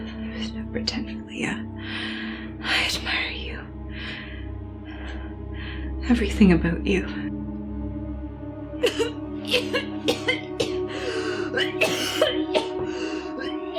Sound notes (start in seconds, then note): 9.4 Naira coughing hard